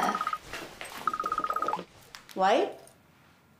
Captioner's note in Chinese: 來電鈴聲